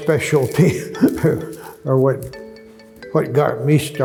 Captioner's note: chuckles